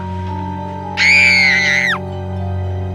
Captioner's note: girl screaming!